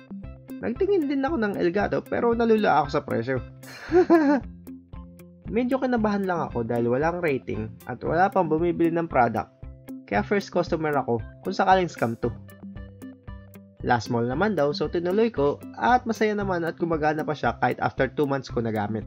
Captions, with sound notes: I also checked out Elgato devices, but the price threw me off. *confused laughing* I was nervous as it has no ratings nor items sold, so I'm the first customer if ever it was a scam. It was a "LazMall" shop so went ahead with it, and I'm glad it still works, even if I first used it two months after it arrived.